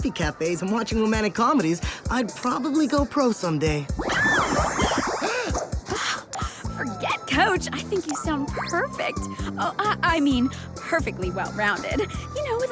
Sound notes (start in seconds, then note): 7.9 squeals; 10.4 gasps